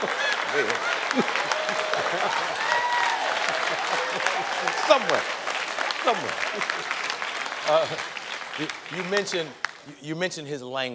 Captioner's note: laughter